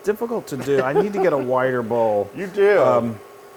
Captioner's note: laugh